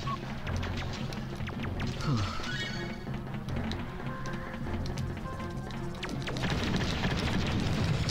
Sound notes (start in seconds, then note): 1.9 sigh of relief